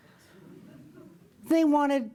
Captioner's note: audience chuckles